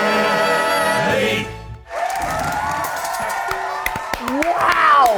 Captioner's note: audience applauding